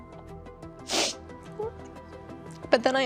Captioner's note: sniffling